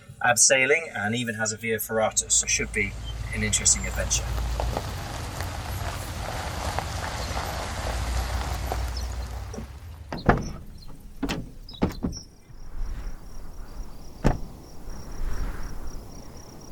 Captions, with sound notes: abseiling and even has a via ferrata, so it should be an interesting adventure [Sound of car on rough ground] [Door Slam]